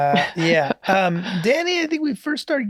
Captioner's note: laughs